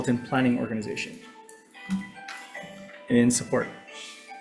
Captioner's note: cellphone ringing